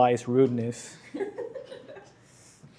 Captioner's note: laughter